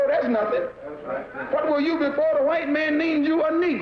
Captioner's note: voiceover